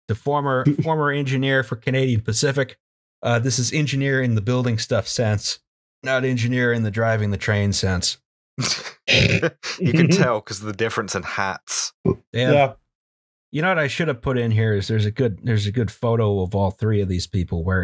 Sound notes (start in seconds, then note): 8.6 laughter